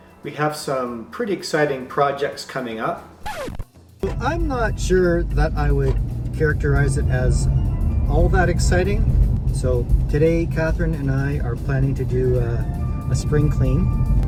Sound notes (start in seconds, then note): 3.2 scratching Record Sound